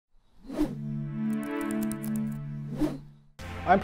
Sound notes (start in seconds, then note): 0.4 air whooshing; 0.7 light electronic music; 2.6 air whooshing